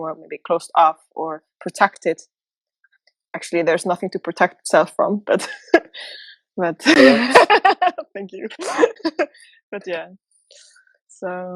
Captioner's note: laughter